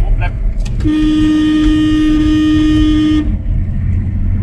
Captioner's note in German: Hupen